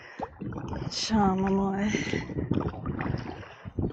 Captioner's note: wind